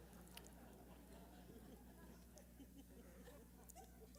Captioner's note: laughter